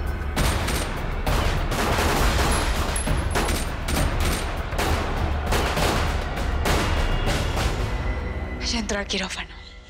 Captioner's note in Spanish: Disparos; Tiroteo